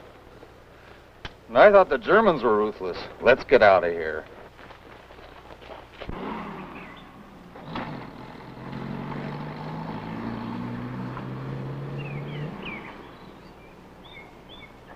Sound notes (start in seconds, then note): 6.0 engine running; 12.4 birds chirping